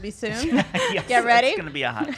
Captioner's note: laughing